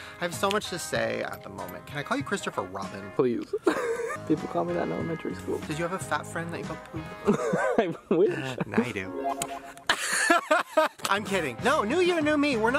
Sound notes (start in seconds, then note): 3.5 laughing; 7.2 laughing; 9.8 Shane laughing